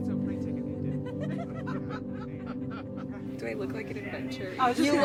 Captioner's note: everyone laughs